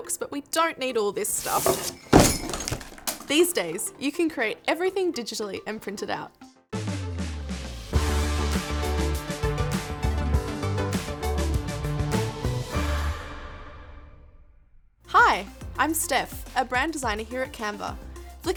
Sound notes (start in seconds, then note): 1.4 objects clattering; 6.8 bright upbeat music